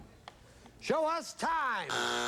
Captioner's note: buzzer